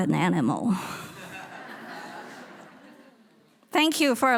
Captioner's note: audience laughing